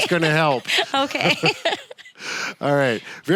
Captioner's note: laughs